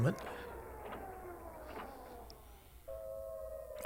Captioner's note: machine whirring; alarm blaring